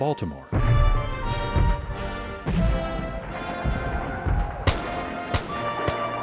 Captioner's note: guns and cannons firing